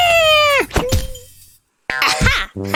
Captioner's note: grunting